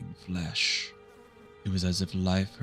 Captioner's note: flies buzzing